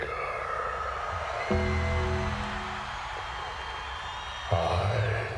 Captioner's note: crowd cheers; bell tolls